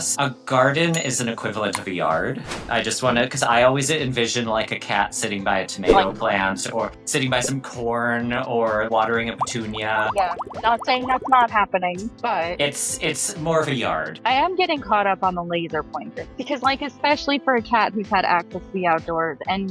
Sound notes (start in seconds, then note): 2.3 flag whooshing; 9.2 water burbling